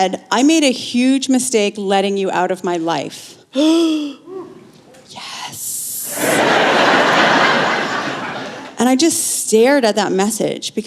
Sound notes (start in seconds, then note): 3.5 gasp